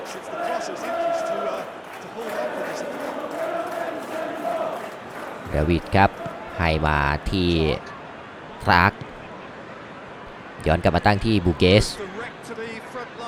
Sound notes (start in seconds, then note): 0.0 applause